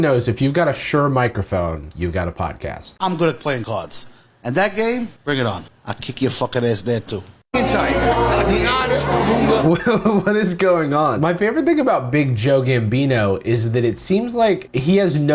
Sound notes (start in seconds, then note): 7.5 party sounds